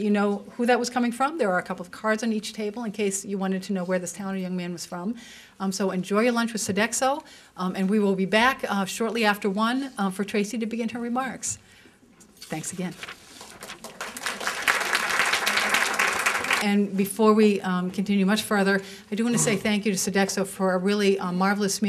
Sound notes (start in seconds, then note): 13.3 applause